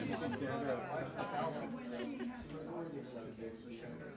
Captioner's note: laughing